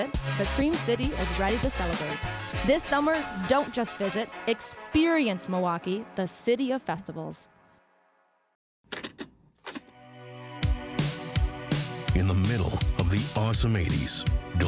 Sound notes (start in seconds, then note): 8.9 cassette clicking